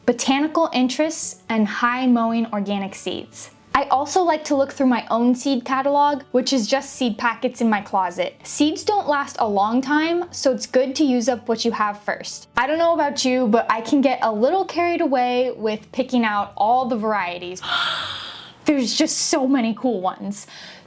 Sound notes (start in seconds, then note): 17.6 gasp